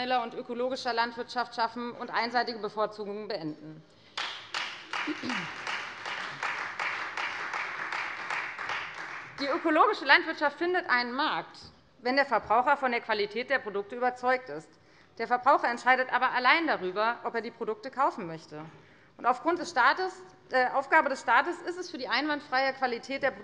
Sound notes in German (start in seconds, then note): 4.1 Beifall Freie Demokraten